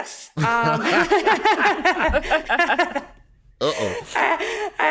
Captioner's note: all laughing